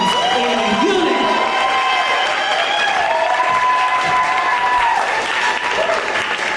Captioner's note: audience applauding and cheering